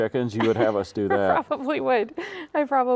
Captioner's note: laughs